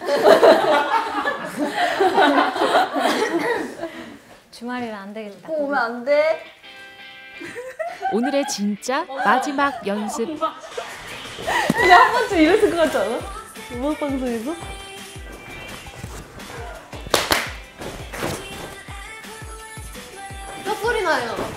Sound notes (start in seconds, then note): 17.7 stomping feet along with the girls